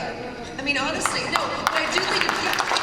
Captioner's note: applause